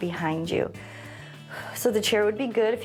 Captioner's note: inhales and exhales